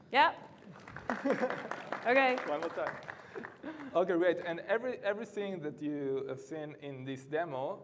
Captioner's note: ap plause